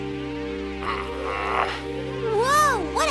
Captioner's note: growling